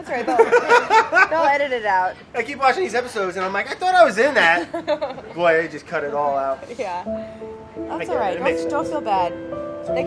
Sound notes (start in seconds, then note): 0.3 laughs; 4.5 laughs; 7.0 somber music